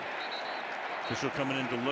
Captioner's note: whistle